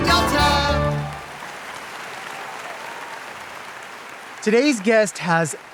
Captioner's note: audience applauding